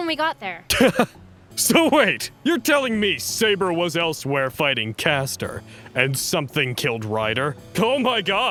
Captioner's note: laughs